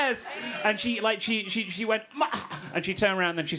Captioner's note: gasps